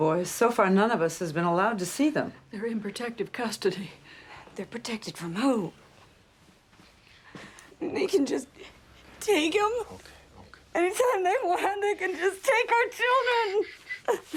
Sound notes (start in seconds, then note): 7.5 sobs; 12.6 cries